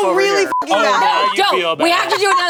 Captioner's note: beep